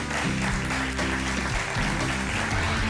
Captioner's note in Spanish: Aplausos